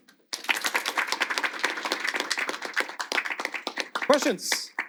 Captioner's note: audience applauding